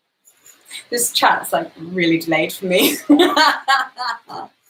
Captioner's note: laughs